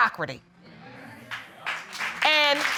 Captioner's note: audience agreeing